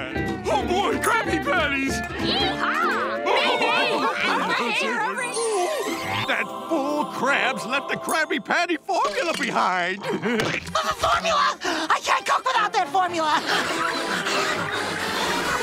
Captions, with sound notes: Oh boy, Krabby Patties! [chattering] That fool Krabs left the Krabby Patty formula behind. The formula! I can't cook without that formula!